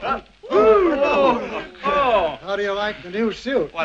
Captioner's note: chattering